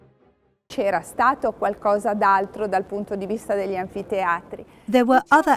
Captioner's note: speaking in foreign language